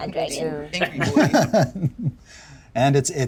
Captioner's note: laughs